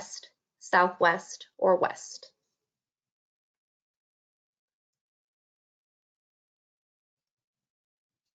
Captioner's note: silence